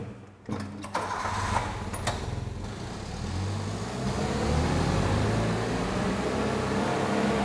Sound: engine roaring

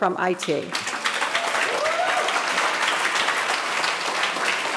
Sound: audience applauding

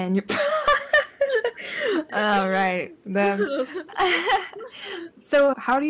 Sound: laugh

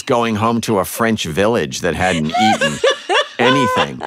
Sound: laughter

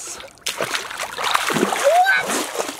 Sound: splashes

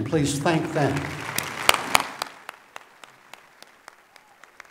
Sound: applause

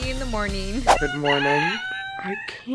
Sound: rooster cuckoos

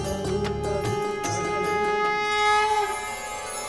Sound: conch blowing

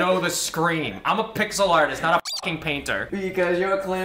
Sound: squeak

